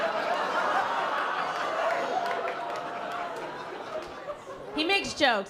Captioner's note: laughter